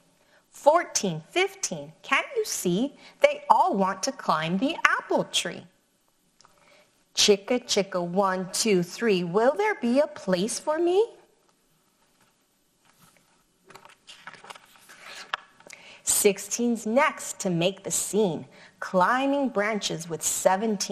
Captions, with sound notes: "14, 15, can you see, they all want to climb the apple tree. "'Chicka Chicka 1, 2, 3, will there be a place for me?' (paper rustles) "16's next to make the scene, climbing branches with 17.